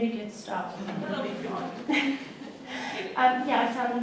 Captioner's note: crowd laughs